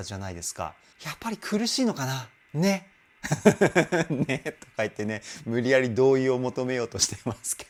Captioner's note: laughter